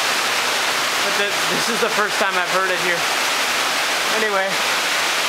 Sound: the rain

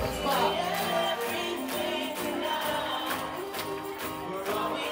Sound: tambourine rattling; upbeat music; crowd clapping

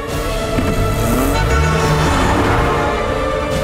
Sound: honking

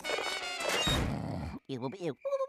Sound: snoring

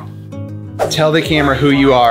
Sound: screen swooshes

